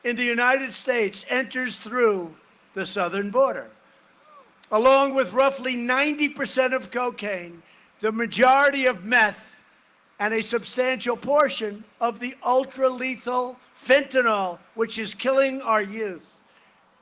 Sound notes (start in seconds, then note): none